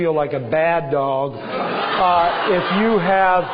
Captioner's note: laughter